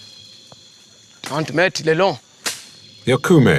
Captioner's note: foreign language